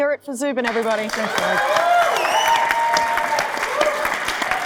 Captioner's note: audience cheering